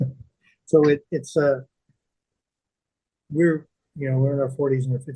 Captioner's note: laughing